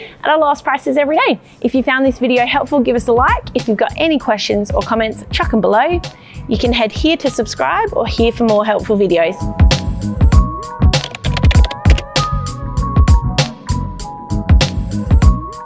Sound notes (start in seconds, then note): 2.8 upbeat music; 10.9 keyboard clacking; 12.0 upbeat music continues